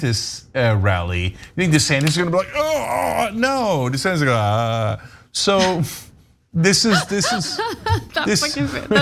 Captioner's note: laugh